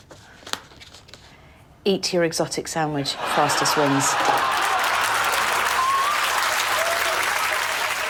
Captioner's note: laughter; applause